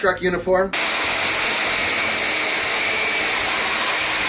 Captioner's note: engine revving